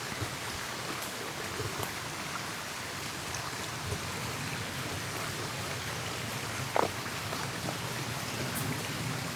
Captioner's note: water running